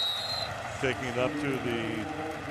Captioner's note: whistle blows